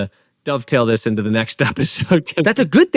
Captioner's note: laughs